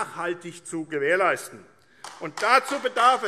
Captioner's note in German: Beifall AfD